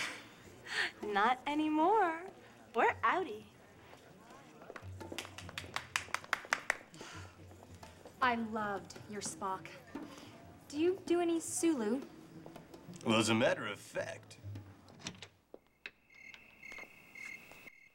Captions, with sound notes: NOT ANYMORE. WE'RE OUTIT-E. ( applause ) ( si ghing ) LOI VED YOURPO SCK. DO Y DOUO ANY SU?LU WELL, AS AAT MTER OF FACT...